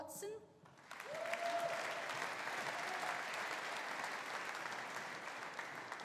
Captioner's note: audience applauding; audience cheering